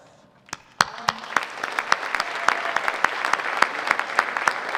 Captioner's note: audience applauding